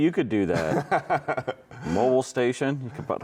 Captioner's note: chuckling